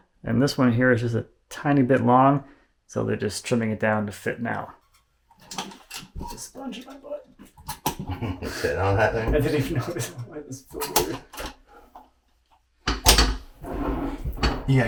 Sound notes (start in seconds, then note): 5.1 sealant gun squeaking; 7.9 laughs; 12.9 sealant gun clanking